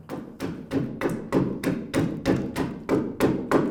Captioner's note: tool banging